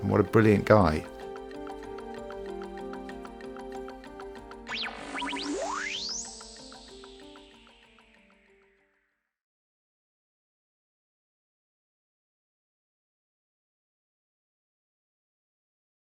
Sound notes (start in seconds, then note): 4.7 music fades out; 4.7 electronic beeping